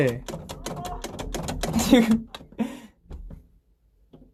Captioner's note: turning the door knob